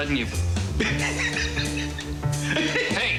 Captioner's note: laughing